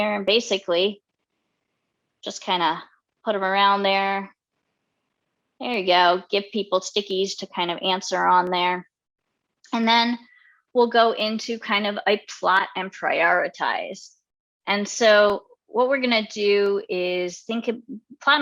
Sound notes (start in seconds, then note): none